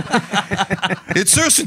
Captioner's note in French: rires